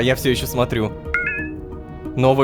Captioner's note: notification sound